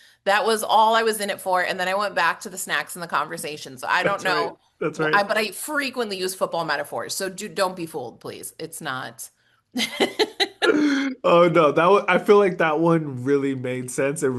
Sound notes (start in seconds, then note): 9.7 laugh